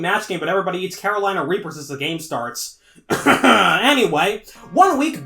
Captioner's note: cough